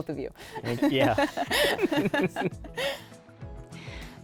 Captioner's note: laughter